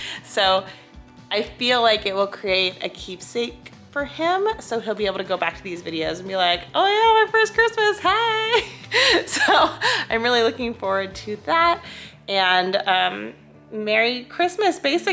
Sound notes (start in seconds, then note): 8.6 chuckles